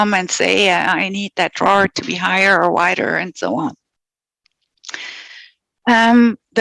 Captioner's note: non-english speech